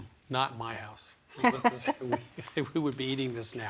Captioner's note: laughing